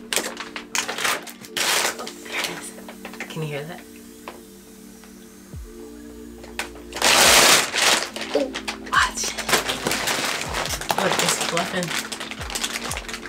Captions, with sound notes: Ooop... There it is... can you hear that (air escaping)? Ooop... Watch! Look, it's fluffing!